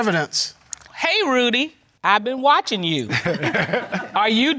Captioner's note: chuckles